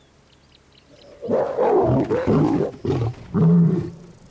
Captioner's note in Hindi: दहाड़